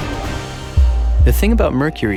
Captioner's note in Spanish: Latido del corazón